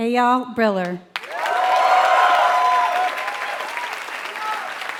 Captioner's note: applause